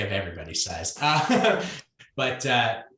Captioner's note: laughs